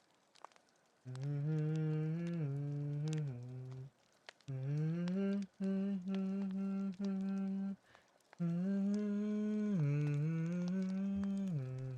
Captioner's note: more subpar humming